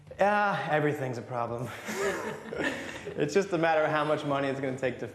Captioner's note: all laugh